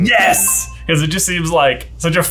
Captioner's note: bell dings